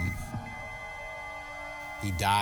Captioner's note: machine beeping